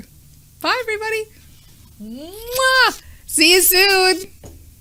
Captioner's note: lips smacking